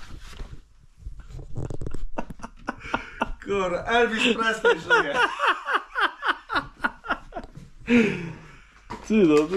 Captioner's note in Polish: śmiech